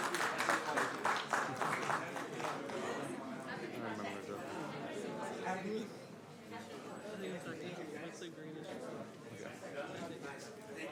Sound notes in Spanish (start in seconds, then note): 0.0 Aplausos